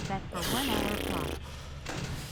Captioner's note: blows raspberry